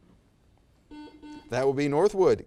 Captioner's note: buzzer